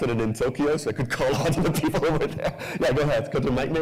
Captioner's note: laughs